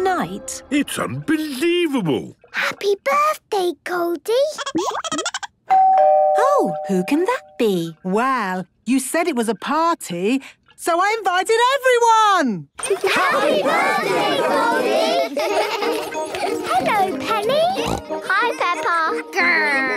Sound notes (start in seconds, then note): 4.7 Goldie giggling; 5.7 doorbell ringing; 15.3 laughter; 17.7 snorting